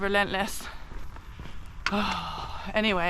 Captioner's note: sigh